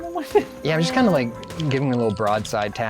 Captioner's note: pat